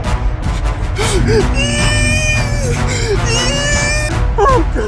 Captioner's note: crying